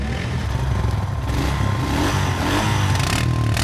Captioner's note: engine revs